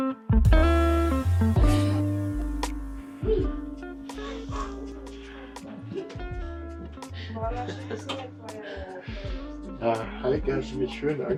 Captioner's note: laughs